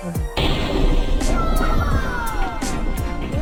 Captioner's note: thunderclap